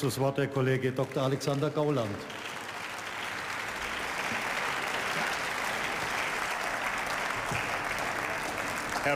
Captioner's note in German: Beifall